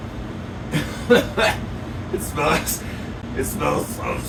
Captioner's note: coughs